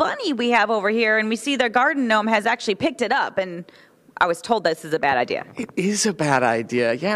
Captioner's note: deep voice